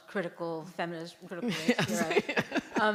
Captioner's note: laughter